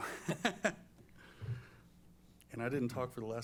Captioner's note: laughs